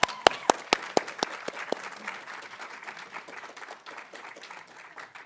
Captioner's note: audience applauding